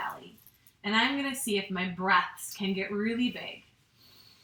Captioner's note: inhales